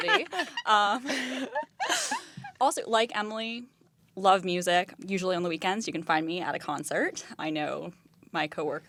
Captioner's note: laughter